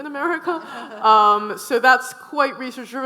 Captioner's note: audience laughing